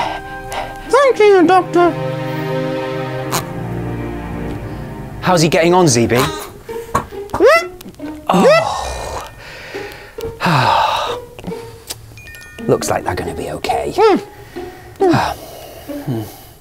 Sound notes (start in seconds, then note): 2.9 pig oinks; 6.1 pig squeals; 8.2 sighs; 14.9 sighs